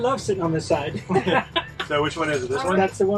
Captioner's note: chuckles